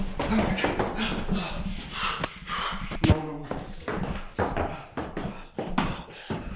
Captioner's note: feet stomping; panting